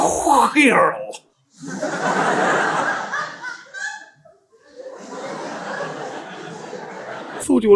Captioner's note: audience laughter